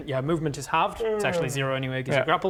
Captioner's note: yawn